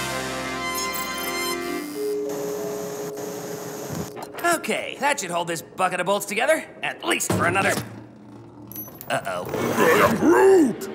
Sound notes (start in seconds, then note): 6.7 nail clinks